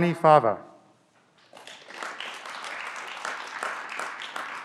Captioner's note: clapping